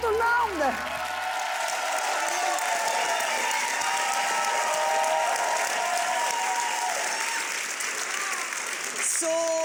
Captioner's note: audience applauds and cheers